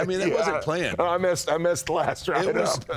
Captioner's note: laughs